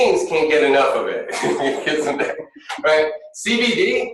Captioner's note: laughing